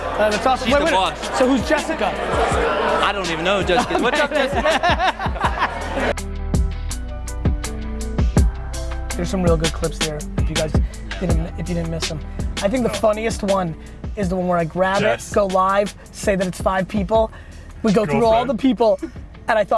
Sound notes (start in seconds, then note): 3.9 laughs; 6.6 reflective hip hop beat